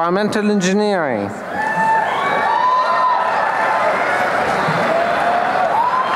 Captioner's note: applause and cheering